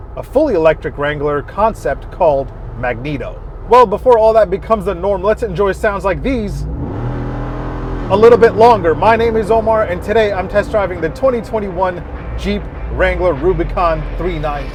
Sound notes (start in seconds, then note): 6.9 engine revving